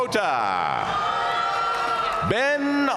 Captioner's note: audience cheering and applauding